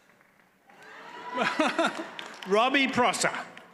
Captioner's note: audience cheers